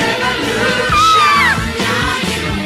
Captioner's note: Sweet Polly Purebred Screams